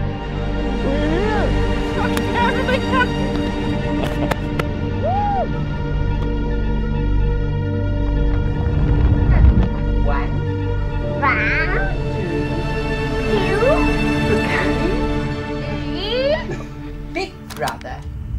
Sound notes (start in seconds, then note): 2.2 speaking in a foreign language